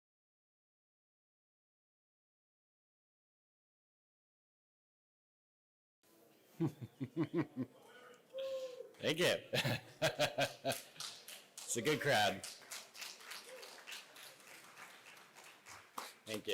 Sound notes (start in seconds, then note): 6.2 laughs; 12.6 applause